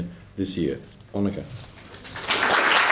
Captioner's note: applause